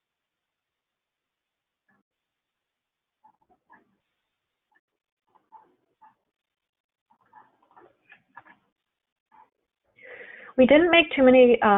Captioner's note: silence